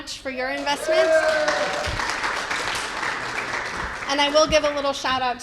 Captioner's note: cheers and applause